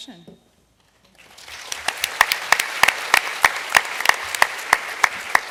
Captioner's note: applause